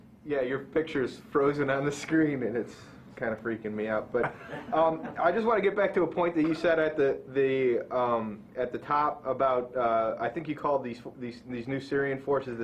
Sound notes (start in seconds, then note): 4.2 laughter